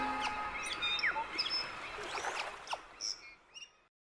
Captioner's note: birds chirping